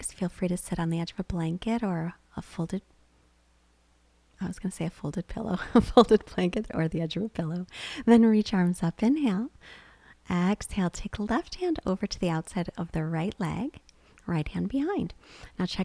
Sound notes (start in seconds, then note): 5.7 laughs